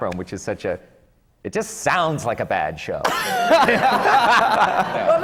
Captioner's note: laughter